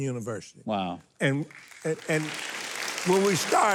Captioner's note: crowd clapping